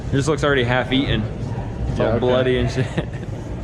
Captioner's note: laughing